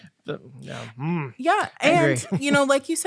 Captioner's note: angry tone